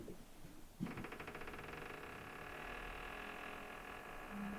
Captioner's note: wood creaking